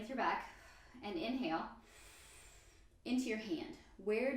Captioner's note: inhale